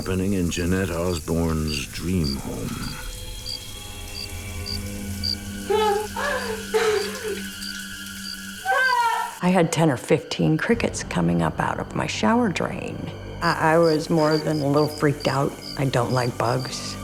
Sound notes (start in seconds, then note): 2.2 cricket chirping; 5.7 shouting